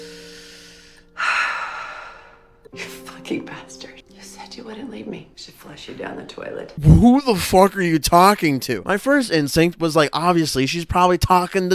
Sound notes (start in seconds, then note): 0.0 sharp inhale